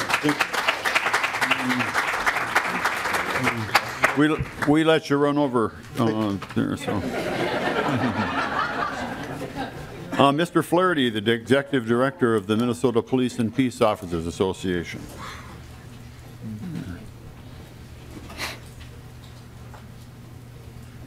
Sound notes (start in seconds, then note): 1.4 lauging; 5.8 applause; 14.6 lauging